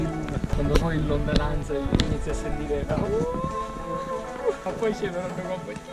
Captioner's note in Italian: auuuh